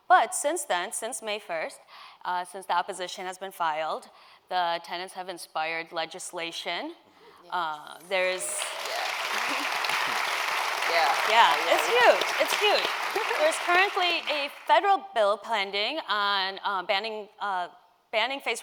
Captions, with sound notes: technology itself. But since then, since May 1st, since the opposition has been filed, the tenants have inspired legislation. [Applause] . It's huge. It's huge. There's